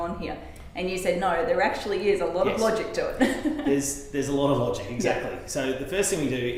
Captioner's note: laughing